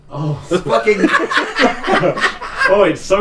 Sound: laughing

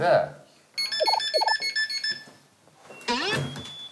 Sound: beep beep

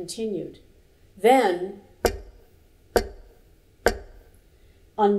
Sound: knock, knock, knock

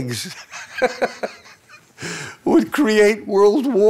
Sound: laughing

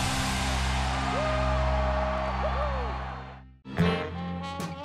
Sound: rock music; cheering; slow jazz music

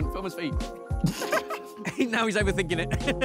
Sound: laughter; laughs

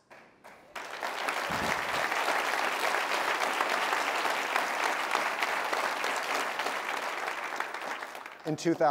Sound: applause

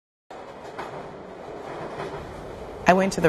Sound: rattling of a train

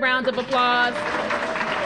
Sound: applause

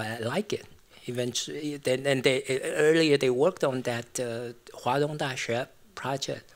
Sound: non-english

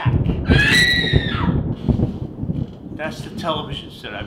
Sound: scream

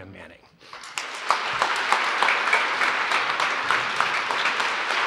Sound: applause

